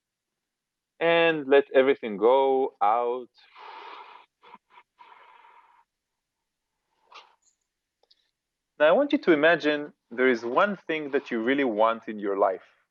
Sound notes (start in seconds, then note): 3.4 exhale sound